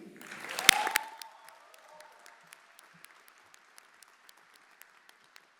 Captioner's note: everyone applauding